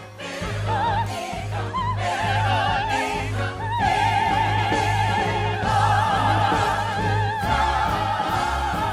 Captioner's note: trilling